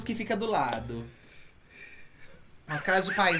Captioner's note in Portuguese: grilos cricrilando